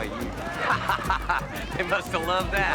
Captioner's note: laughing